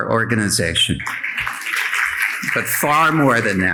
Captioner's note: audience applauding